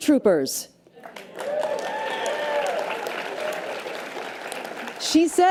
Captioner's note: audience applause and cheers